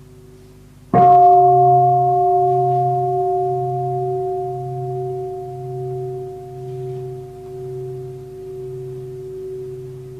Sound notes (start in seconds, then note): 1.0 bell